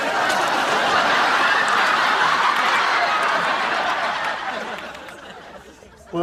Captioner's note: laughing